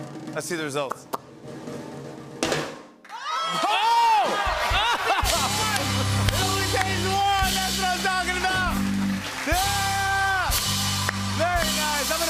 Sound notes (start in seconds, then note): 4.5 cheers and applause